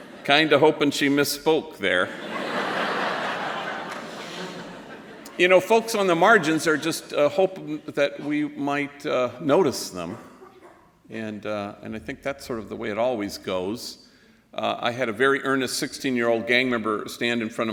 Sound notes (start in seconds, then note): 2.0 laughter